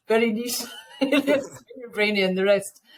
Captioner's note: chuckles